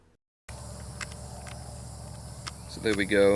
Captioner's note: clicking